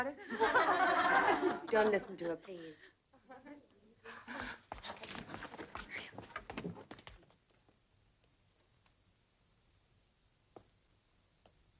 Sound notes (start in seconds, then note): 0.2 girls laughing; 4.1 girls gasping